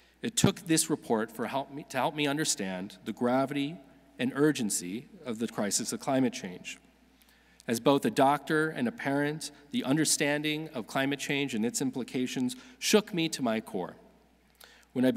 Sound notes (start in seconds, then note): none